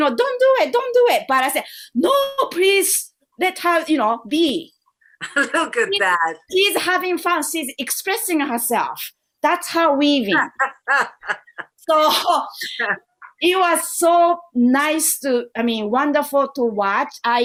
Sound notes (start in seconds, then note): 10.3 laughter